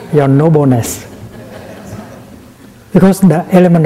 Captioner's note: laughter